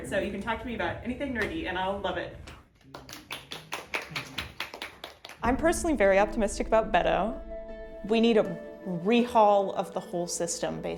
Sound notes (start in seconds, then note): 2.9 audience applauding